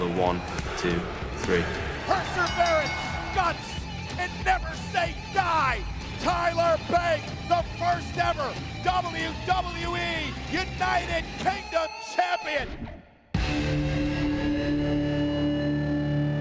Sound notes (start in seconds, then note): 2.2 bell ringing